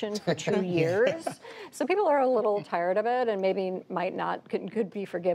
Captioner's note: laughter